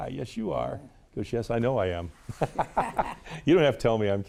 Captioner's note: laughs